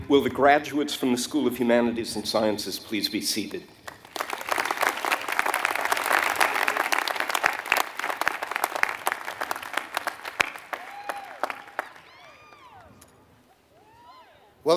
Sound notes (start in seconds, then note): 3.8 applause